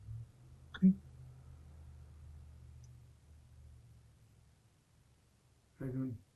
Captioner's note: pauses 6 seconds